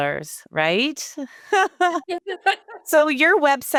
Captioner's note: both laughing